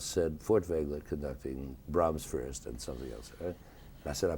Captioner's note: none